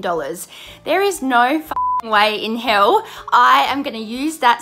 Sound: beep

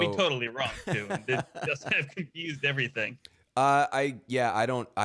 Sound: laughing

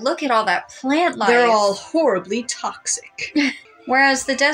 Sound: chuckle

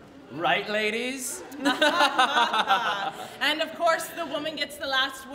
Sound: laughs

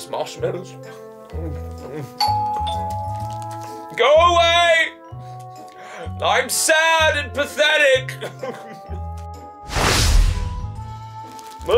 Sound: doorbell

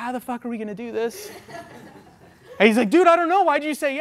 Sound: audience laughs

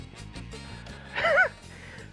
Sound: chuckles

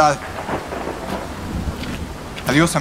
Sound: thunder

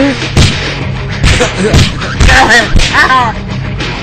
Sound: punching and grunting noises

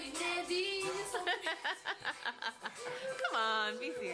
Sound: laughter

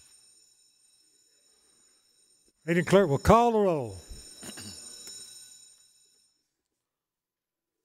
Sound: bell rings

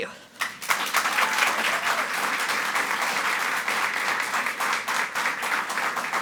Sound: audience cheering and clapping

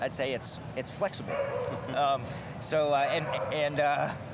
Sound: dog barking

